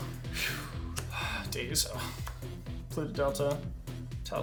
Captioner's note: sighs